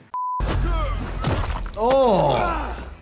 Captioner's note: characters groan